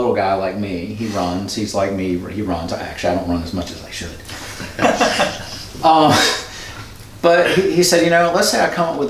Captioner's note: laughter